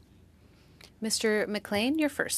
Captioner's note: speaking French